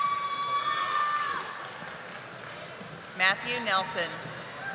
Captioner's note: audience applauding